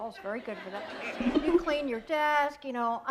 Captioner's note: laughter